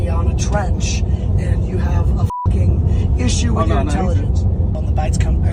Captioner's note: beeps